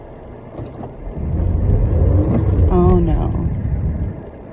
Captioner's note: engine reeves, tires spin